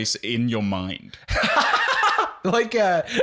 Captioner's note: laughing